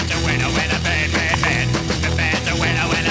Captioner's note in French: crac